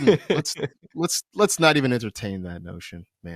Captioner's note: laughter